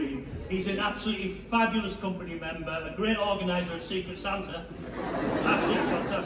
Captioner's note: laughter